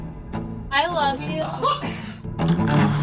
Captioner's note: laughs